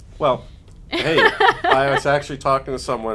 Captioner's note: laughing